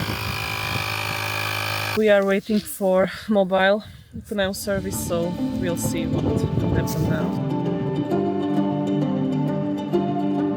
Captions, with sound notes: [buzzing] We are waiting for a mobile tire service so we'll see what will happen now [intro music]